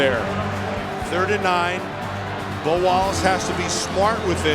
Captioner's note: voiceover